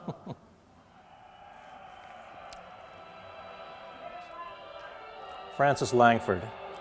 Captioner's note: audience laughter; audience applause